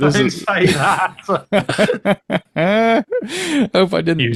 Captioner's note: both laughing